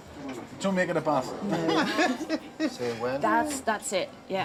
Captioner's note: laughs